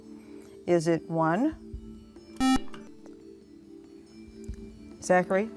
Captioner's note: buzzer